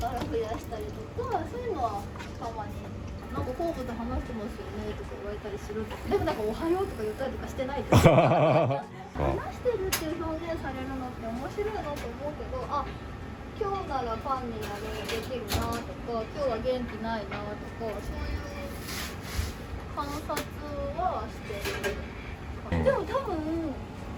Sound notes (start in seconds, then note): 7.9 laughs